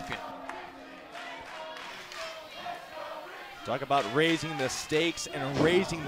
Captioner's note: bell ringing